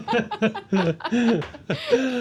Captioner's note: laughing